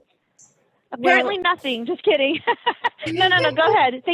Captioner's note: laughing